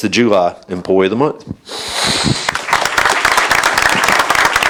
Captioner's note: applause